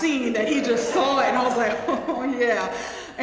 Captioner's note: laugh